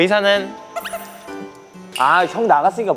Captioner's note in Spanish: Titubeos